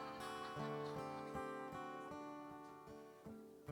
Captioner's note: laughter